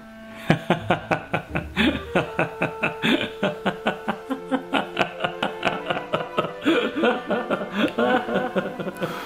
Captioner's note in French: rires